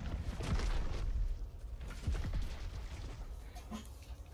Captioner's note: rumbling